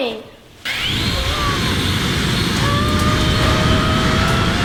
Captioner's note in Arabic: هبوب الرياح; يصرخ في الخوف